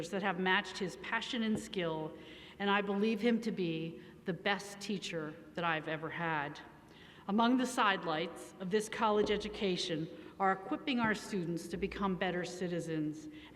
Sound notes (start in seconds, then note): none